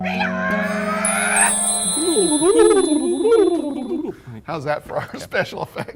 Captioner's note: magic sound